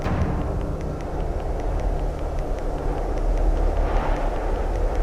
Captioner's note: wind humming